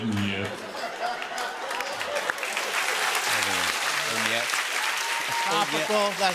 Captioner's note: cheers and applause